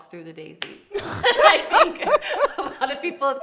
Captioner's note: laughing